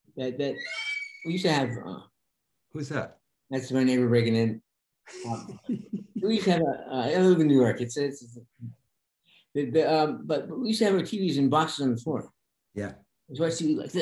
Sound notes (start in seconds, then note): 0.5 door squeaking; 5.1 Denis laughing